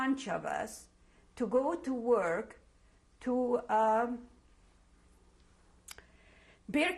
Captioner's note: pauses for 3 seconds